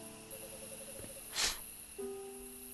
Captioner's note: blowing